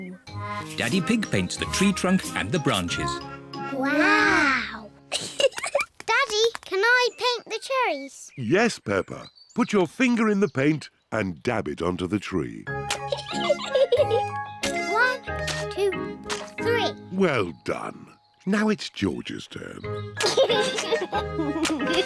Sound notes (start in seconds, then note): 5.1 both giggle; 13.0 giggles; 20.2 chuckles